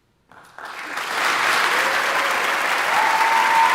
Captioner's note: audience applauding; audience cheering